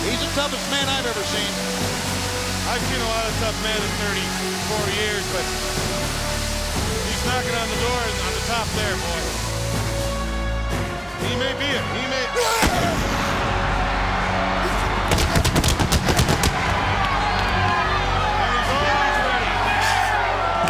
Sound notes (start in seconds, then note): 12.2 Goldberg yells; 12.8 fireworks exploding